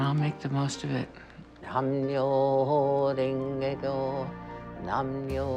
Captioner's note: chanting in foreign language